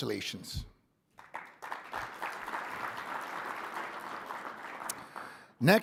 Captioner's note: audience applauding